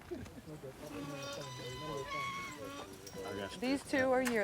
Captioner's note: ranchers chattering; gate squeaking